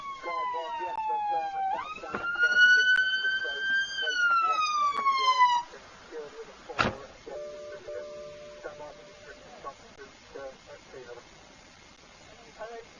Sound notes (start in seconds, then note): 5.7 siren cuts out; 6.7 car door closes; 10.3 police radio